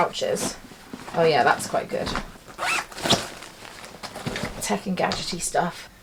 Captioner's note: zipper zipping